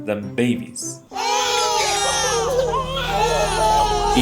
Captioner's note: intense crying from a multitude of babies